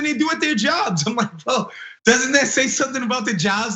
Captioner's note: laugh